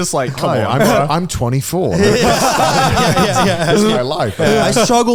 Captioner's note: all laughing